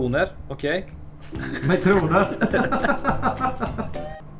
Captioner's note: laughs like a seagull